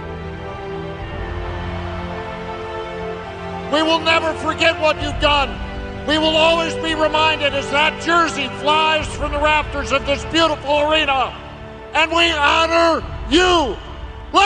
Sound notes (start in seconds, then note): 0.8 crowd cheering